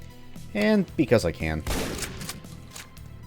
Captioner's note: boom